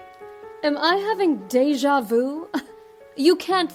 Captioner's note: chuckles